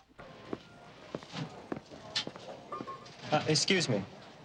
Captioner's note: people chattering; gentle music